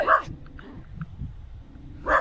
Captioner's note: dog barking